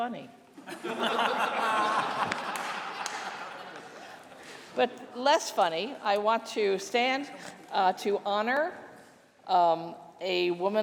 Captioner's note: laughter